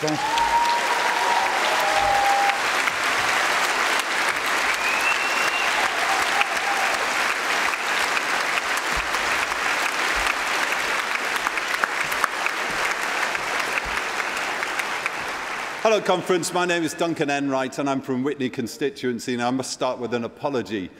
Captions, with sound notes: I can ask you there's no peace without justice and there's no justice if the Palestinians don't have their rights. Thank you very much Conference. (Cheering & Applause)